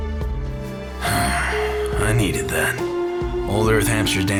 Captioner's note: sighs